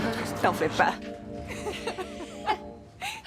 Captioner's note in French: rire